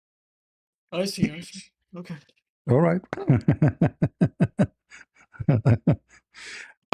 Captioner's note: laughter